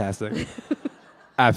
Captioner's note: laughter